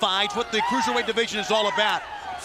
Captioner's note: crowd cheering